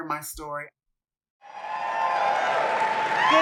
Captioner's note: clapping